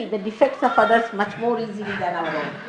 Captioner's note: laughter